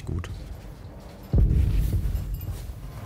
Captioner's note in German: Grollende Töne